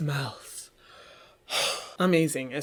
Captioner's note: exhales